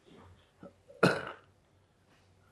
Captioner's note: coughing